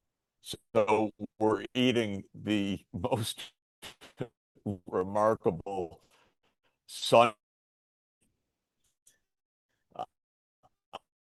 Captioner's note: audio cuts out